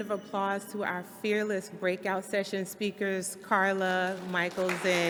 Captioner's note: applause